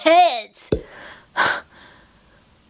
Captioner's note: heavy breathing